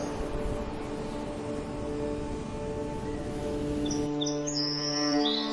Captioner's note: nature sounds